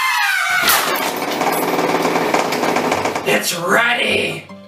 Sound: mixer vibrating on the table sounds

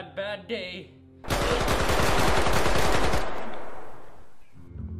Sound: more shooting

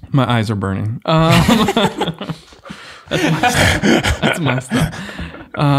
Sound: men laughing

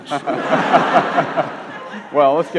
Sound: audience laughs

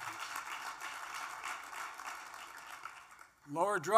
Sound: applause

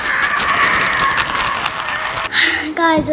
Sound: bag crinkles loudly

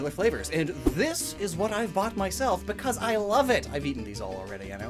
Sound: whoosh SFX

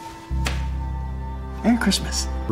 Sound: slaps shoulder

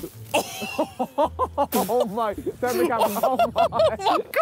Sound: Sidemen laughing

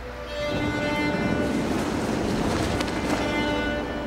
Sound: thunder rumbling

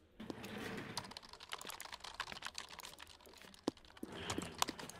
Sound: keyboards clacking

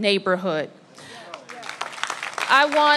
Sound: applause

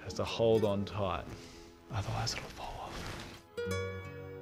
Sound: whispers

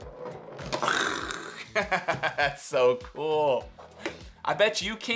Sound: cans slamming; laughs

